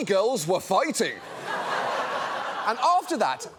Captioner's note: audience laughs